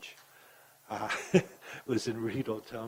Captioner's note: laughs